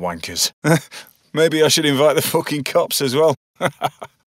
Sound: chuckles

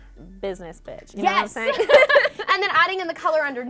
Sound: both laugh

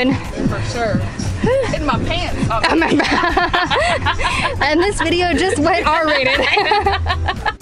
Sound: laughter

